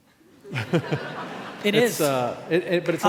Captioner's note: laughing